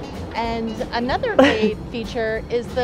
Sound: chuckles

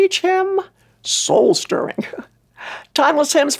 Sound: chuckles

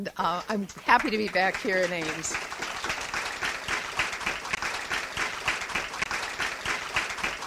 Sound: audience applauds

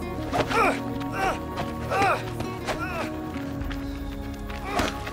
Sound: fight noises

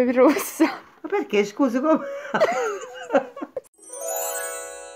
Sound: laughs

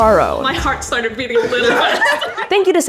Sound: laughs

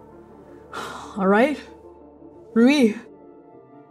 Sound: exhaling

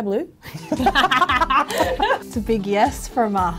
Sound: both laughing

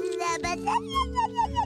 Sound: babbling

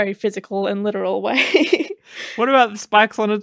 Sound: laughs

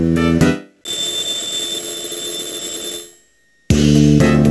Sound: riiiing

